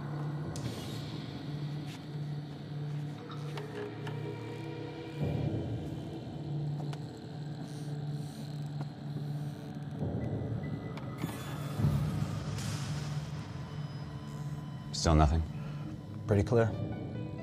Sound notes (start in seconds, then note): none